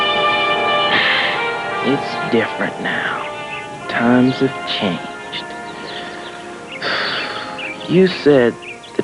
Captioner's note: sighs